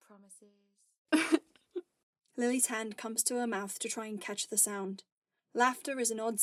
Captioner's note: Lily laughs